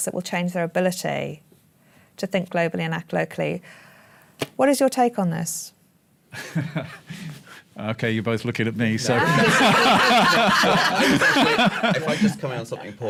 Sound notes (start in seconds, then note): 9.1 laughter; 9.1 laugh